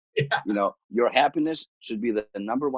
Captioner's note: laughs